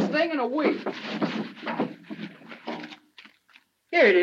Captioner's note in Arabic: حفيف الورق